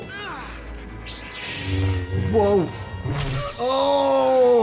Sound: Obi Wan grunting; lightsaber powering up; Darth Maul grunting

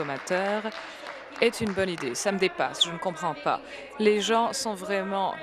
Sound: applause

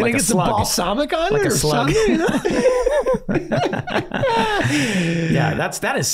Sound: everyone laughing

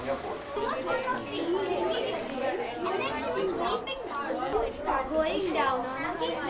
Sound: students reading and discussing aloud

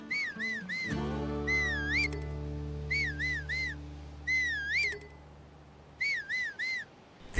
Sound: whistle whistle whistle

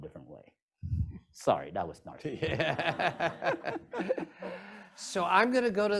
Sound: laughter

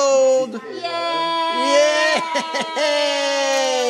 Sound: cheering

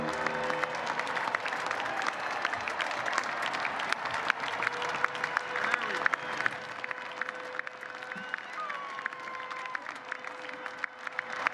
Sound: applause

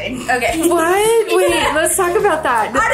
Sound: girls laughing

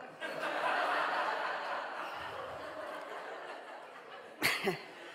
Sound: audience laughing

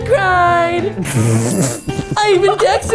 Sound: bell rings; laughing

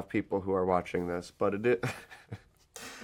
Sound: laughs

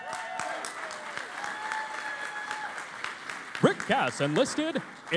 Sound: cheering and Applause

